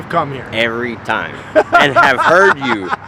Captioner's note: laughing